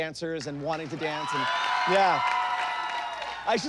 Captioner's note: cheering